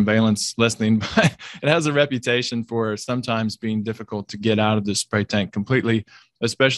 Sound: laugh

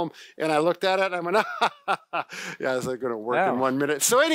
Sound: laughs

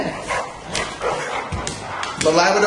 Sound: dogs panting

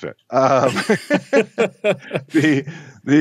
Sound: both laughing

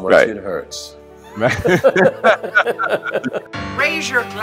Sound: laughter

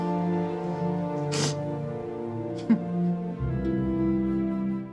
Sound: sniffles; Eudoria chuckles

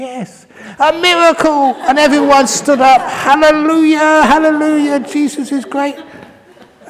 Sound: laugher; laughter

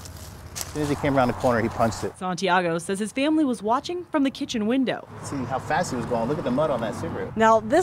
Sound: nats feet walking

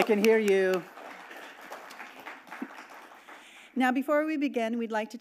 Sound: audience clapping

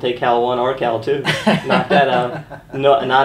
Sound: laughing

